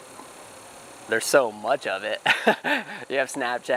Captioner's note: laughing